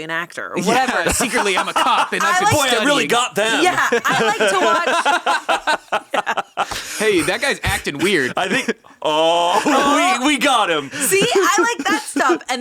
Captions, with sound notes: an actor or whatever." - Secretly, I'm a cop. - "Boy, I really got them." - Yeah, I like to watch- (all laughing) - "Hey, that guy's acting weird." - I think, "Oh, we got him." - See, I like that stuff.